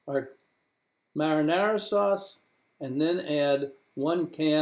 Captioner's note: mimicking sizzle sounds